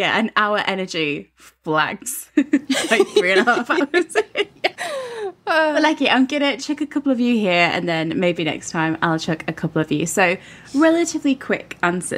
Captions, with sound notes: Yeah. And our energy flags at Like three and a half hours. (laughing) Lechi, I'm gonna chuck a couple at you here and then maybe next time I'll chuck a couple at you. So relatively quick answers.